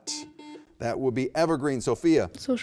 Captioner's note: beep